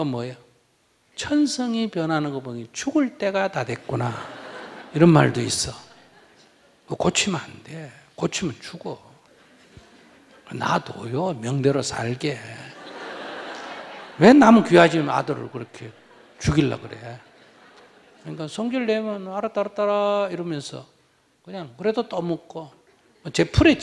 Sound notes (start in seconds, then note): 12.4 audience Laughter